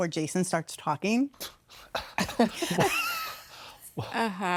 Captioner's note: laughter